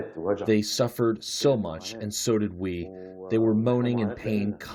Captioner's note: through translator